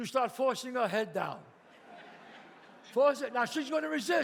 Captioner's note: audience laughs